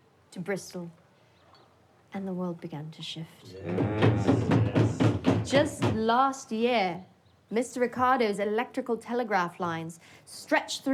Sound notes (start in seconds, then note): 3.7 guest banging